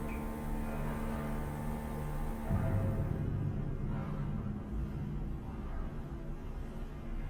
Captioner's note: tuberías de ruidos; ominosa de la música